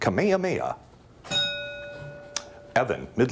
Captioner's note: bell dings